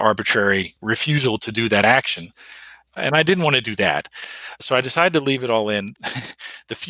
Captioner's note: laughs